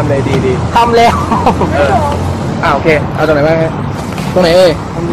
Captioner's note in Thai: เสียงหัวเราะ